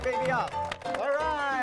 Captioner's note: crowd applauding; upbeat music